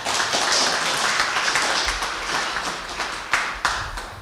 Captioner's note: applause